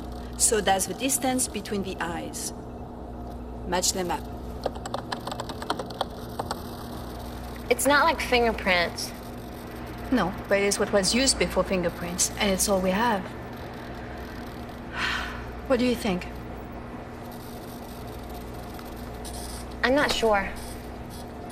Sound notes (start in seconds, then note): 14.9 sighing